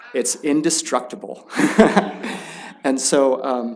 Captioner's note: chuckling